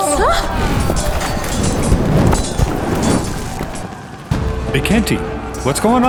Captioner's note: gasps; muffled yelling and clanging